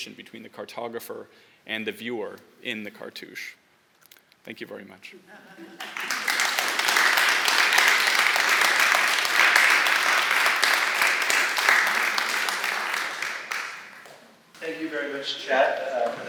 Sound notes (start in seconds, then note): 5.7 applause